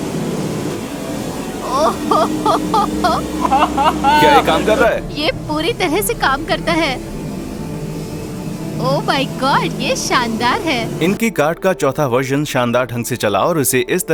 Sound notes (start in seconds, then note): 1.6 chuckling